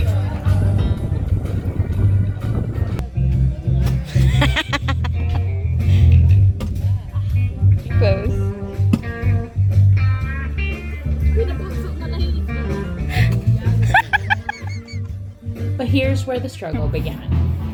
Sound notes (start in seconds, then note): 4.0 laughs; 13.1 laughs